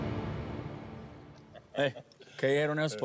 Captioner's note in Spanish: risas